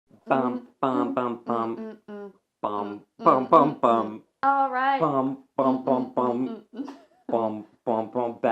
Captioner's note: badly hummed